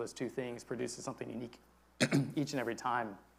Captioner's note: clears throat